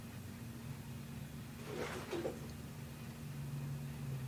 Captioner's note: rustling sound